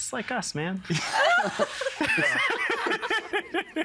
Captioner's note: all laughing